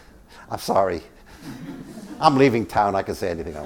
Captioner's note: laugh